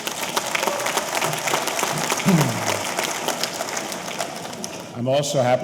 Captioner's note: audience applauding; audience cheering